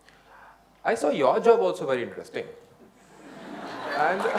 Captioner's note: laughter/Applause